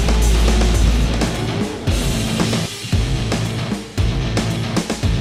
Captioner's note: engine revs